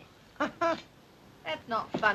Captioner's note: Al laughs